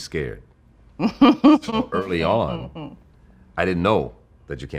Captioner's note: laughing